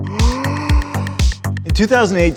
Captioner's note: gasping